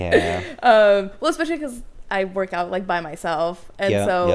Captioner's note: laughs